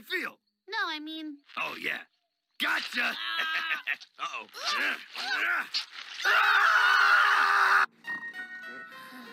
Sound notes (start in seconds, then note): 3.0 laughs; 4.9 Stan grunting; 6.2 Stan and Mabel screaming